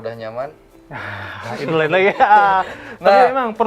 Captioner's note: laughing